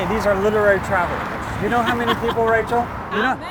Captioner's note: laugh